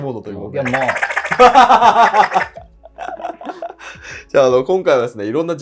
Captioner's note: laughing